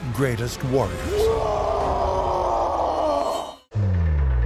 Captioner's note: roaring battle cry